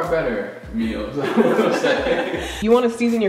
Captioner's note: laughing